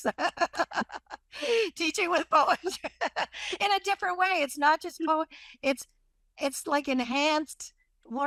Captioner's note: laughs